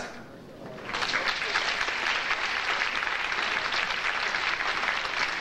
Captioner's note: audience applauding